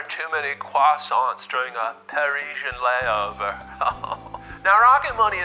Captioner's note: laughing